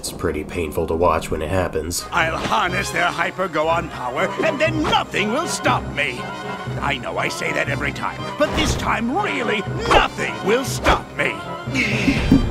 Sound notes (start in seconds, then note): 2.9 sitcom laughter